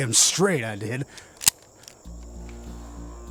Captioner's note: click; suspensful music